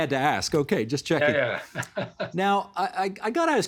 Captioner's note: laughing